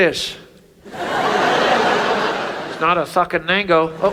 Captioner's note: audience laughs